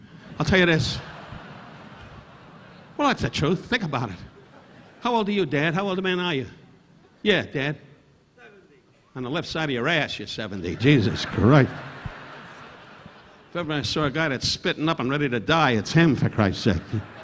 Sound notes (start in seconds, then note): 0.0 audience laughing; 10.5 audience laughing